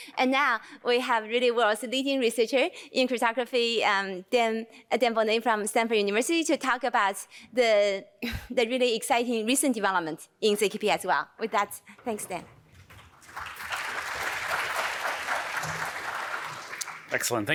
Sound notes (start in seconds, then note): 12.8 applause